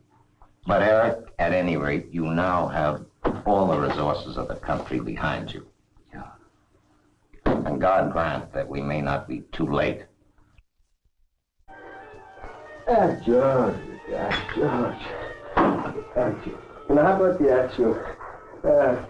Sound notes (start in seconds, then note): 11.5 Joseph speaking in Russian; 11.6 soft dramatic music; 14.2 glass clinking